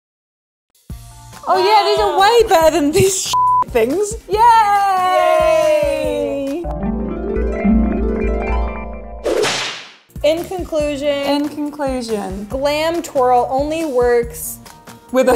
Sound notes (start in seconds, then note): 6.6 harp playing; 9.2 whipping sound